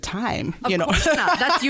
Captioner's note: laughs